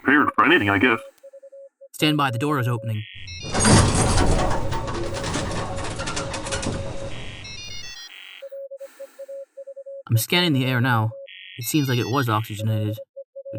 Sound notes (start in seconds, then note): 3.2 A heavy metal door slides open